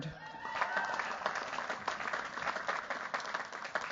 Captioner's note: cheers, applause